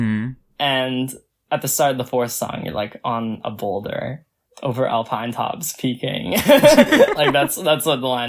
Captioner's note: both laugh